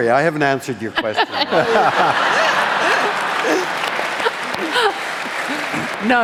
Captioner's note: applause